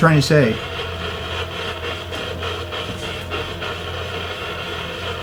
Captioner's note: radio static hisses